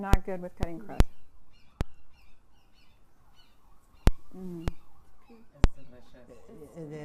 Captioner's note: crows cawing in the background